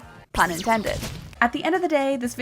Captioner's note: electronic buzzing, squelching